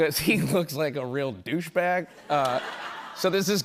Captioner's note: laughter